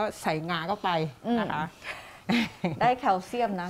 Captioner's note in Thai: เสียงหัวเราะ